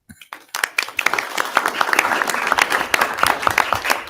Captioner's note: audience applauding